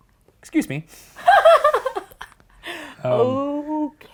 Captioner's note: laughs